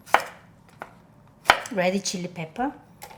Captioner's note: knife chopping